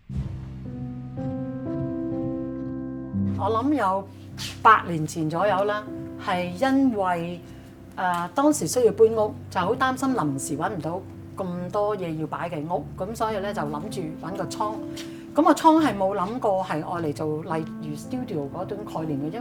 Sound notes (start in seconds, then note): 0.1 soft piano music begins; 4.1 Cantonese